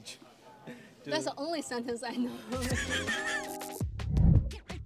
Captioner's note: laughs